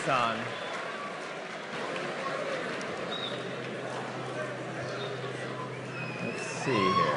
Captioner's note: cheering